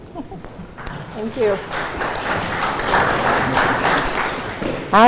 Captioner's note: crowd applauding